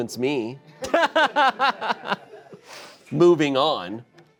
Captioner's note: laughing